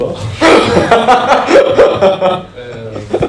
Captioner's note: laughing